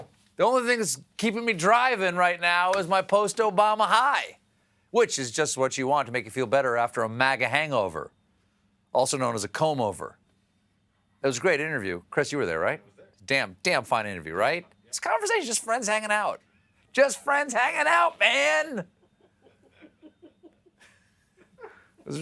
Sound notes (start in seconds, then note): 18.8 laughter